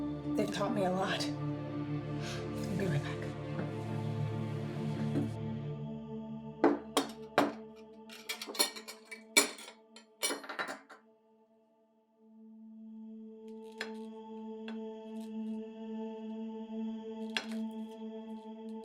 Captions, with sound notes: They've taught me a lot. I'm gonna be right back. (plates thud) (cutlery jangling) (suspenseful music)